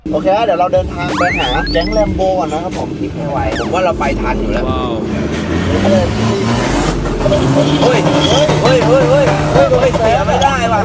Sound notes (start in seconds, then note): 4.7 engine rumbling